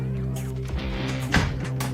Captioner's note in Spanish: Sonido cierre puerta